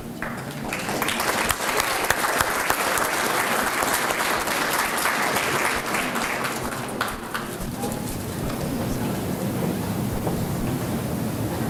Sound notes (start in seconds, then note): 0.0 applause